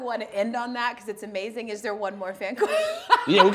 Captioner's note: laughing